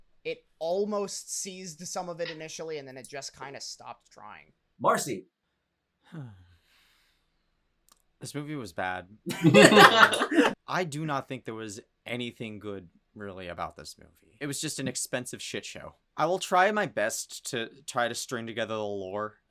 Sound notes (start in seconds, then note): 6.1 sigh